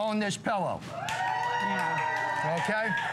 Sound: cheering

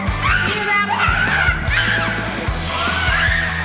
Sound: grunts; shrieking

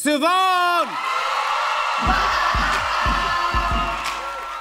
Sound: cheering

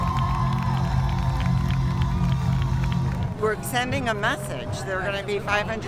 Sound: applause

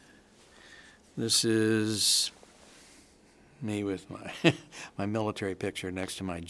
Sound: chuckles

